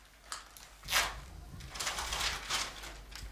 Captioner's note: rustling